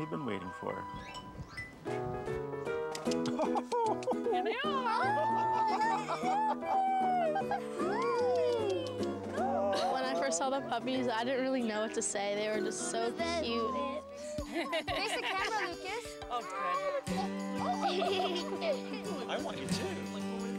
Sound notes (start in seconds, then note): 3.1 chuckling; 4.7 mixed cooing, chuckling; 17.6 giggling